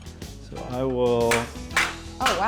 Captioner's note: banging